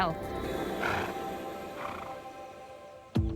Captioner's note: snorts